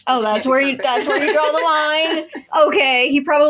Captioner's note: laugh